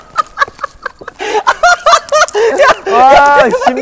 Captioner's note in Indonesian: Ngakak